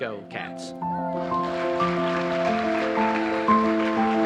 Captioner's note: applause